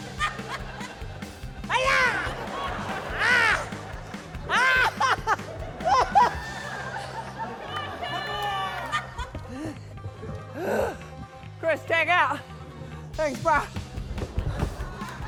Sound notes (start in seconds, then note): 0.3 laughter; 6.2 laughter; 9.3 laughter; 9.4 groans